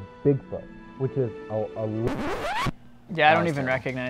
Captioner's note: record scratch